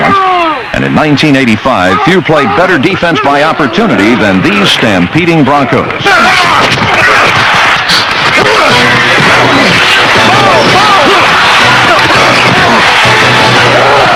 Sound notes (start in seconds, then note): 6.1 grunting; 11.2 crowd cheering